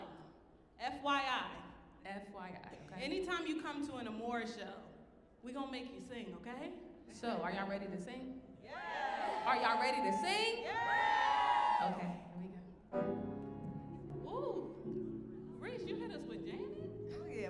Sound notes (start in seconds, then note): 8.7 audience cheering